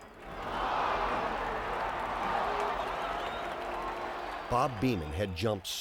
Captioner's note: crowd gasping and cheering